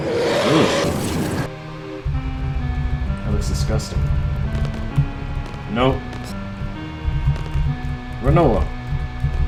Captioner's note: shudder